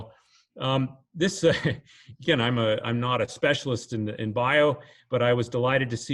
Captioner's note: chuckles